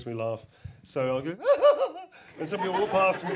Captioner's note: laughs